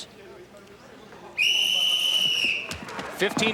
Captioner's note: whistle blowing